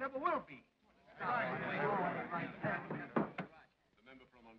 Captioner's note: men chatter